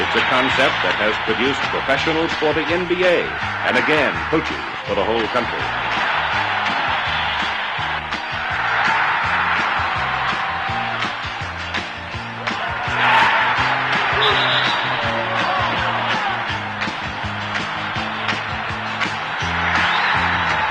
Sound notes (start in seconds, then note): 8.1 crowd cheering